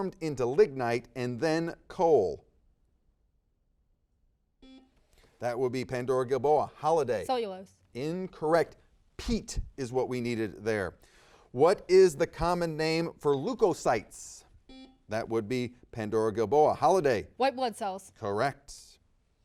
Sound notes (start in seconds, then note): 4.6 buzzer dings; 14.6 buzzer dings